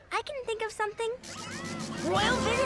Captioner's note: sign buzzes